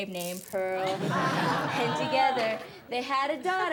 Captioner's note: class laughs